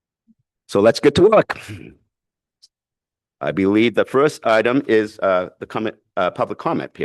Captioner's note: clears throat